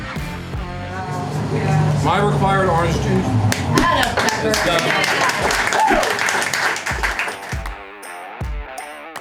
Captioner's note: audience applause